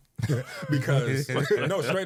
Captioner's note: laughing